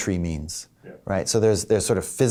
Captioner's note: voiceover